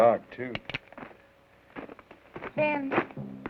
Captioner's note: gun cocks